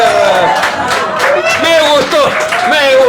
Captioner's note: cheers